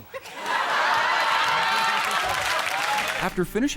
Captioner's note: audience laughing and clapping